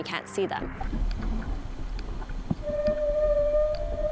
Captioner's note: water bubbling; echoing whale calls